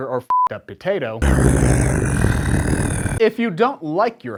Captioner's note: comrade spudnik growling from the planes of madness